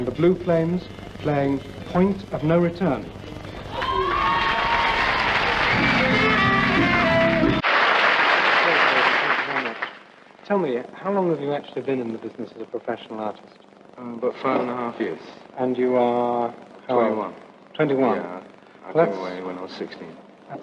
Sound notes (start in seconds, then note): 3.6 cheers and applause; 7.5 applause